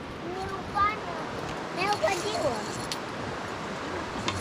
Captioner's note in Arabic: ثرثرة